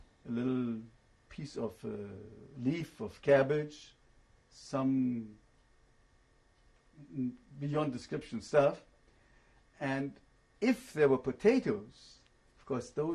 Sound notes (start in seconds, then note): 7.0 pauses for 3 seconds